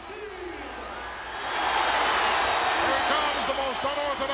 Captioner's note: audience cheers